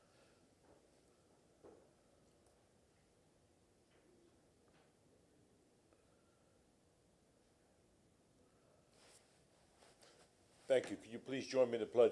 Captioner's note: moment of silence